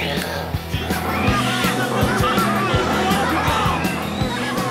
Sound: growls

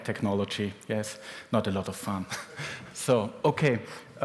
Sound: laughter

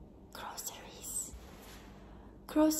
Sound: whispers

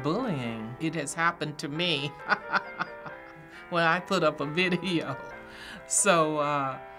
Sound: chuckles

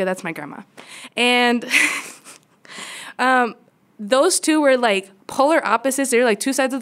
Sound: laughter

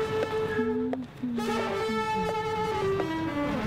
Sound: humming

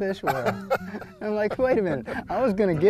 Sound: laughter

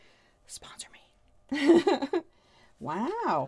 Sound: laughs

